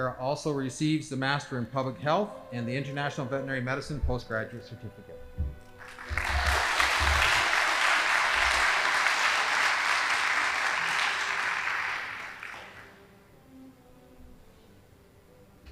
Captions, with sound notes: Sarah also receives the master in public health and the international veterinary medicine postgraduate certificate. (audience applauding) (band playing)